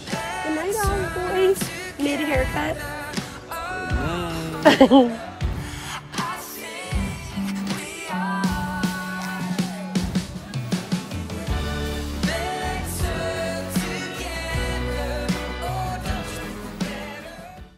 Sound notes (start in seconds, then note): 4.0 laughs; 5.7 outro Music